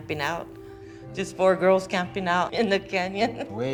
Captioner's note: chuckles